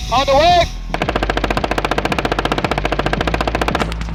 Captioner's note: gun shoots